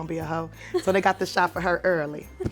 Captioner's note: Esther laughs